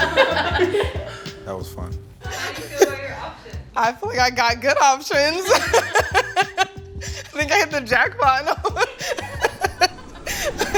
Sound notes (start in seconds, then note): 0.0 all chuckling; 4.6 laughs